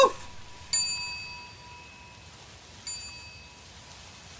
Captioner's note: clock chimes fade